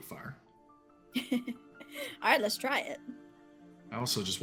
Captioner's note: laughing